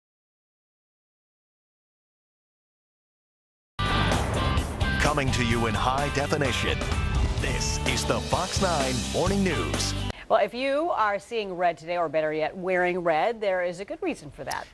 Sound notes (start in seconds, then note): 4.9 voiceover